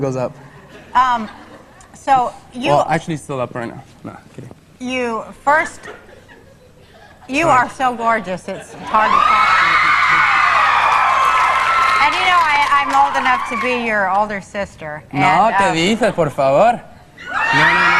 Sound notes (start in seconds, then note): 6.0 audience laughs; 8.8 audience cheering; 15.3 speaks in Spanish; 17.2 audience cheering